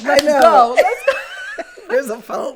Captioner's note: laugh